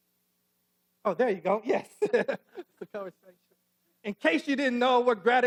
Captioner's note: laughs